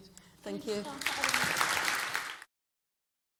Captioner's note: applause